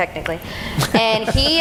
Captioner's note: laughing